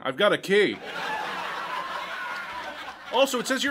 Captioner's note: laugh track